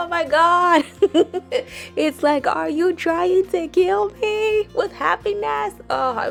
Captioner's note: laughs